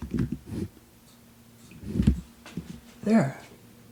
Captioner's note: tapping sound